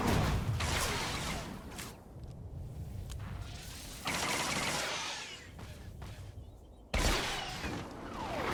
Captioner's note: gun firing; gun firing